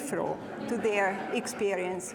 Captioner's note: audience laughs